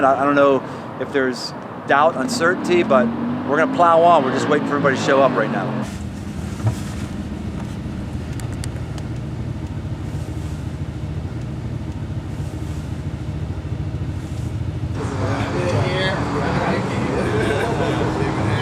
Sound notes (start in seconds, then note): 9.6 truck engine roaring; 14.9 group chatting